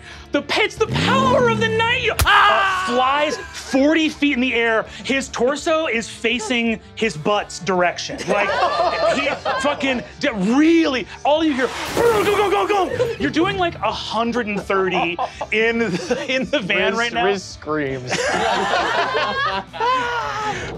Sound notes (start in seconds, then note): 0.7 engine revving; 2.2 Yorbie screaming; 11.8 mimics a body thudding violently; 19.2 screams